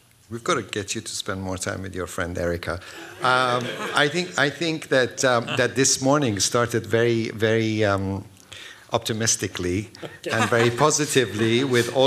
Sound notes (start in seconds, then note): 2.9 laughter